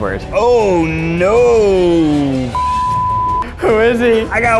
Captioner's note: chuckles